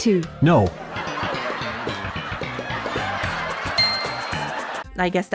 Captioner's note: crowd laughing